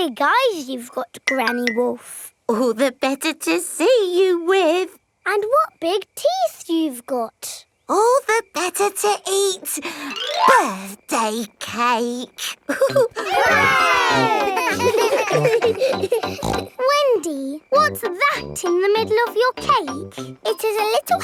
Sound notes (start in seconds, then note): 12.6 laughing; 12.7 chuckles; 17.1 snorts